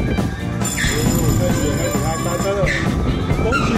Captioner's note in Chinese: 結束鈴聲~